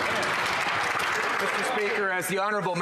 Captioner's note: some Applause